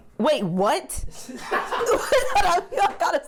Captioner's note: laughs